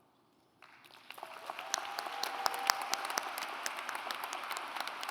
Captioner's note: audience applauds